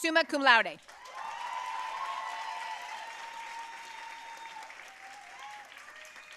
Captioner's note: audience cheering and applauding